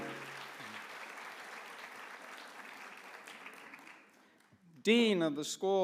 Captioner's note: applause